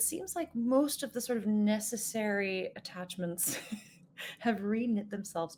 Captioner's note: laughs